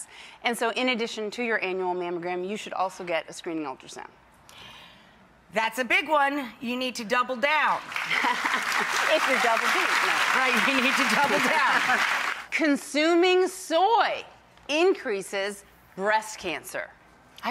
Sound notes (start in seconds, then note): 7.8 audience claps